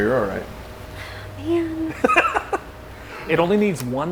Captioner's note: laughing